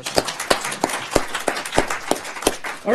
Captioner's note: applause